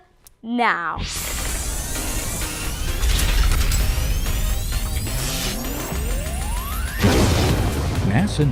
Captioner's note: sound Effects